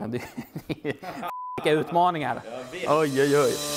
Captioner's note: beep